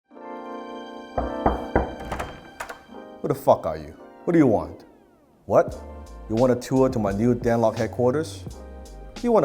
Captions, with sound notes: (knocking) - Who the fuck are you? What do you want? What, you wanna tour to my new Dan Lok headquarters?